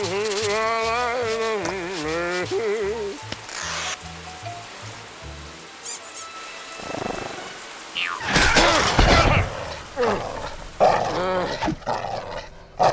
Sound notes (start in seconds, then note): 0.0 humming; 6.2 squeak squeak